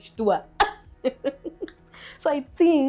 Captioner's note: laughs